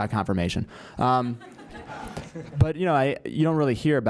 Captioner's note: laugh